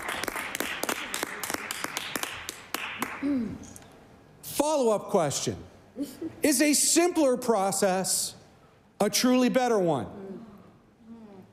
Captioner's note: some Applause